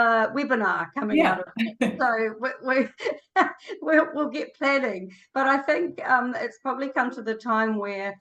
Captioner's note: laughs